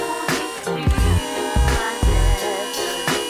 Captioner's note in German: Summen